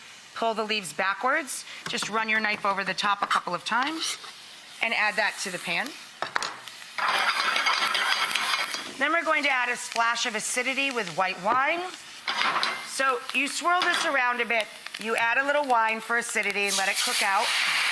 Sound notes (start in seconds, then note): none